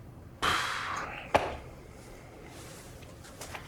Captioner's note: Joseph exhales